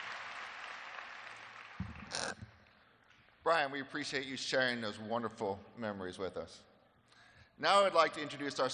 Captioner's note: applause